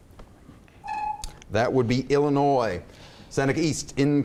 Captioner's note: beeps